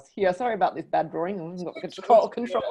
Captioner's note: laughs